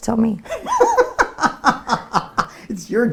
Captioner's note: laughs